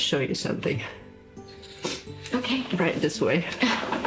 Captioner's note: sniffles